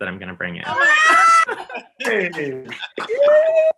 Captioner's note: cheering; clapping